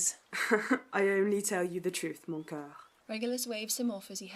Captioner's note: Orion laughs